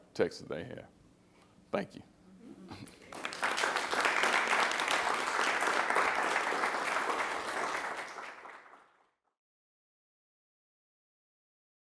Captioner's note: applause